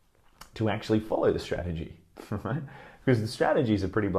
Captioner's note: chuckles